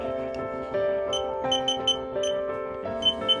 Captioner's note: beeping